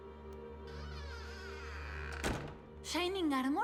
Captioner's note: door creaks and closes